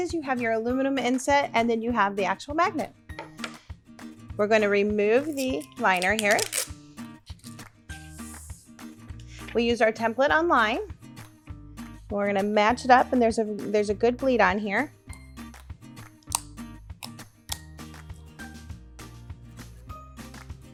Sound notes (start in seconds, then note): 5.2 ripping and sliding paper; 16.3 tape scratching; 17.3 upbeat clapping music